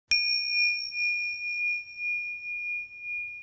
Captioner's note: bell chimes